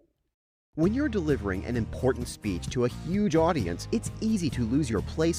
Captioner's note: voiceover